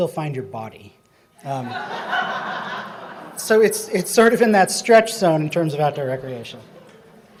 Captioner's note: laughing